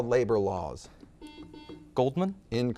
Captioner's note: buzzer beeps